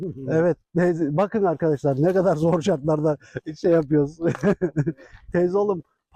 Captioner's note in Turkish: kahkaha